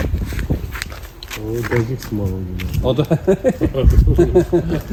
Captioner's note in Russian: смех